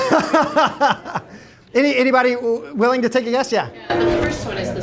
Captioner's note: laughter